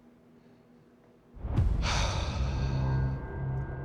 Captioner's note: sighs